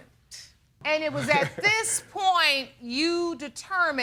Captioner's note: laughing